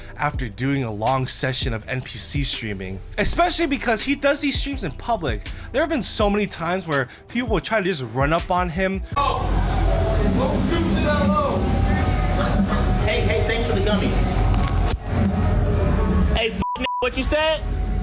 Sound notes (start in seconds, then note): 12.0 imitating munching noise; 16.6 beep